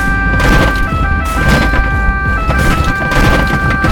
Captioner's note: siren, noises of breaking glass, blows